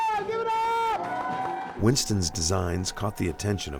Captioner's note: cheering